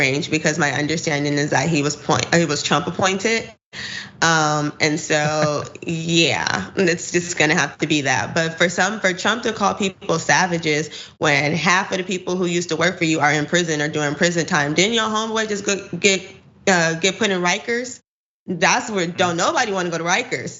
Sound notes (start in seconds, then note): 5.0 laugh